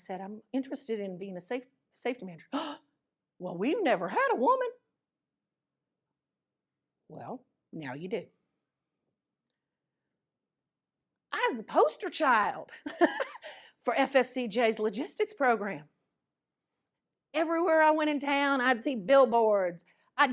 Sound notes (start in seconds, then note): 2.6 gasps